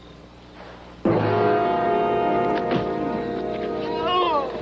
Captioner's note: straining